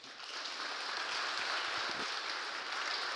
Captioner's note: applause